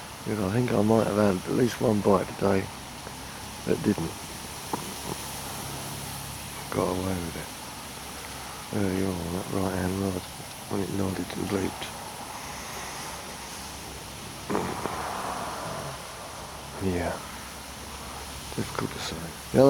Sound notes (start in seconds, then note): 14.5 deep exhale